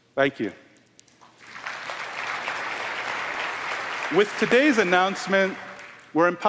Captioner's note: applause